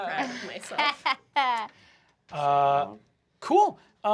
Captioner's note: laughs